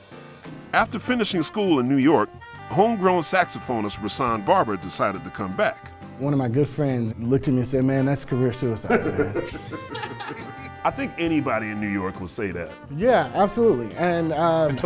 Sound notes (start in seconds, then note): 8.8 laughter